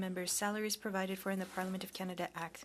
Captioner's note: speaking French